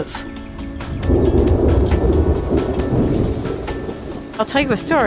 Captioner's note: thunder roaring